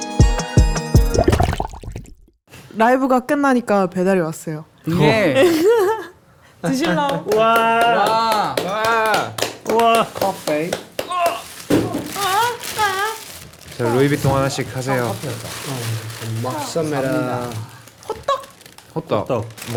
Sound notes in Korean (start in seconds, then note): 6.9 함성으로 화답